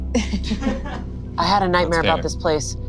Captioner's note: laughs; crew laughs